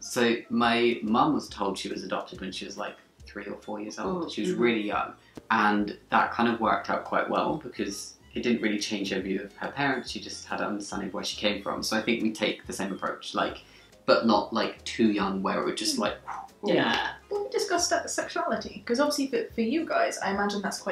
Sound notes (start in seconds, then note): 16.4 whooshing